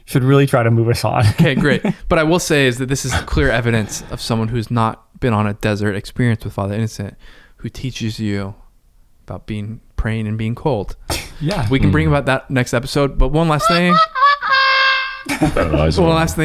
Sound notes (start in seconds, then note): 1.2 laughs; 3.0 chuckles; 13.6 laughs; 13.6 sad horn music